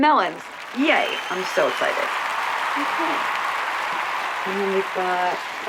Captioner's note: audience applauding